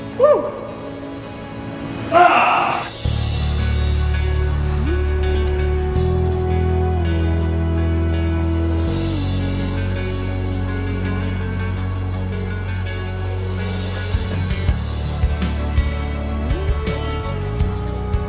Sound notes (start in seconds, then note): 2.0 Wesley grunts; 3.1 light music